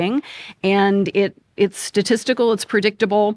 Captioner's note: none